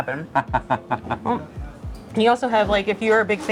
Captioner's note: chuckling